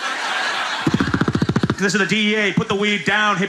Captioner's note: imitating helicopter